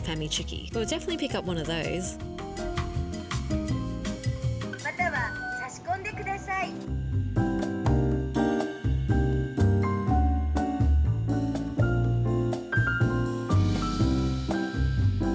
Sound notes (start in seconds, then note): 4.8 Machine Speaks Japanese